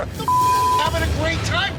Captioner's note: beep